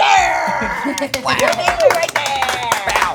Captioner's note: group clapping; laughing; group clapping